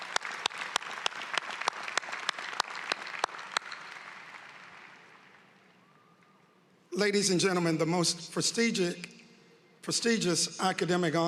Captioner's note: applause